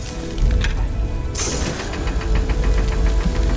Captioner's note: laser shot